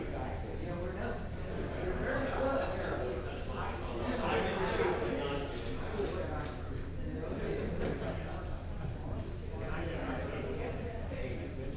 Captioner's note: indistinct chatter